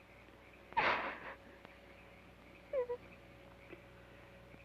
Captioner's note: Laura sobs